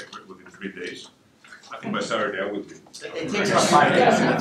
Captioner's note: laughter